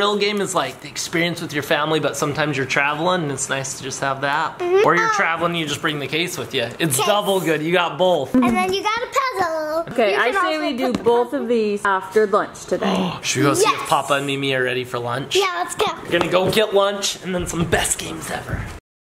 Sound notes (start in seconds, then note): 13.1 gasp